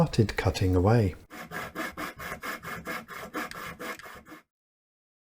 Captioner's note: sawing Noises